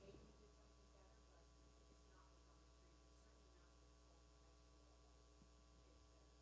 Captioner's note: speaking away from mic